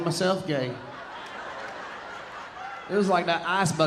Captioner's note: audience laughing